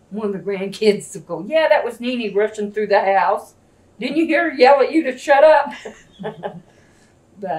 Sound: laughs

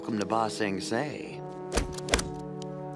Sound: stamping

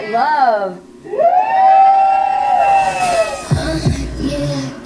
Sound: contestants cheer

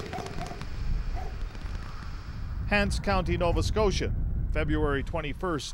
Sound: distant dog barks

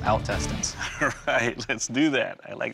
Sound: laughs

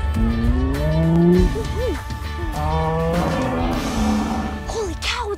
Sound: stegosaurus grunting

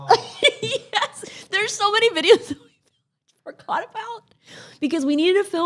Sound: laughs; laughs

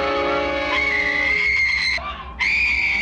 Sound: screams

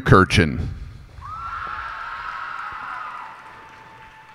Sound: cheers and applause

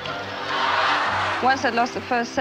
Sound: crowd roaring

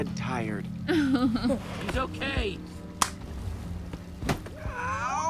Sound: Sabrina laughs

